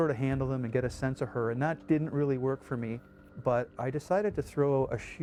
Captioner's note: voiceover